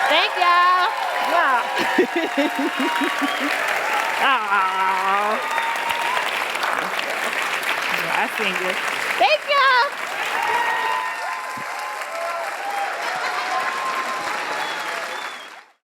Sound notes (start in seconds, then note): 0.2 applause; 3.7 applause